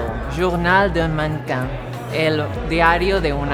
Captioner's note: speaking French; speaking Portugese